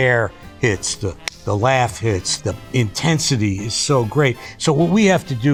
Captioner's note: hand smacks